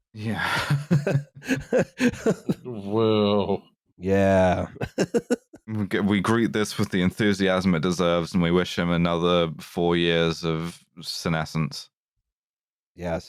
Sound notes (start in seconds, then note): 0.3 tired laughter; 5.2 laughs